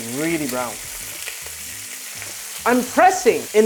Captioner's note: sizzling sound